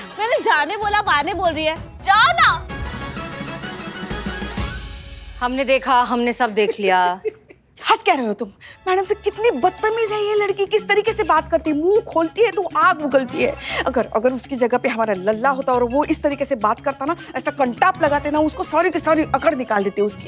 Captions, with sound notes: I told you to go, not to come back. Just go. - I saw everything. - [laughs] Why are you laughing? This girl is so rude. Look at how she talks. She breathes fire when she opens her mouth. If it was Lalla in her place, and he talked like this, then I'd give him a slap and straightened him up.